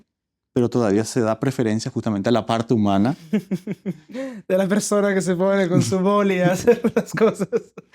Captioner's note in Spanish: risas; risas